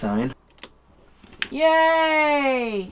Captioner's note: switch clicks